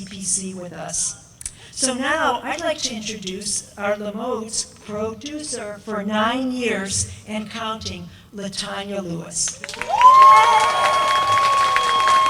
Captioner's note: applause